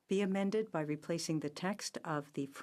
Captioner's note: speaking french